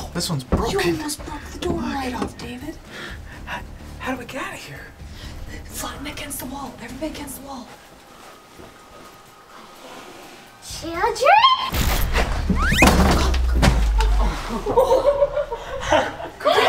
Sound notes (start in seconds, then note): 11.7 granny thudding; 11.8 slipping; 14.0 laughing